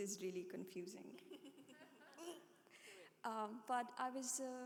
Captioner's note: panelists chuckling